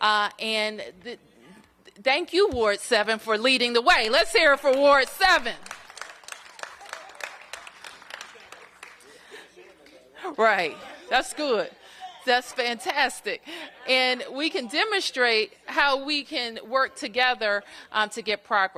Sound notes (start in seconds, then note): 5.4 applause